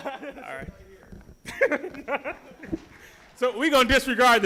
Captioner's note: laughing